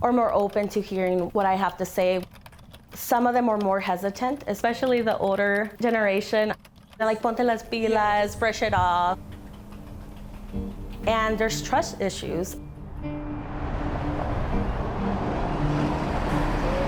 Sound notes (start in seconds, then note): 7.2 speaking Spanish; 9.1 solemn music; 9.6 keyboard clacking; 11.9 traffic rushing